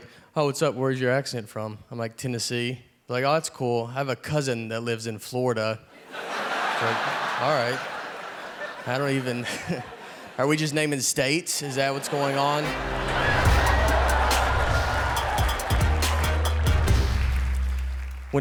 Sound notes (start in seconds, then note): 5.9 audience laughing; 12.1 upbeat music